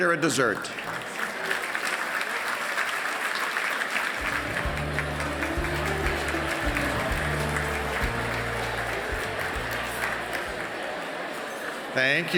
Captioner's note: applause